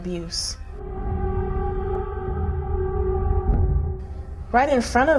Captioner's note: eerie ringing